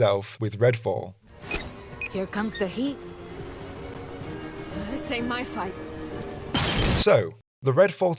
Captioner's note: loud explosion